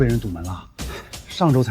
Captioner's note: Sigh